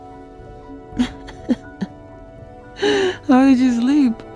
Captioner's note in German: kichert